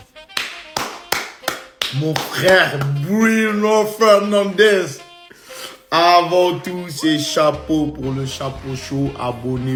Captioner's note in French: applaudissements